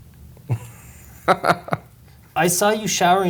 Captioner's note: laughs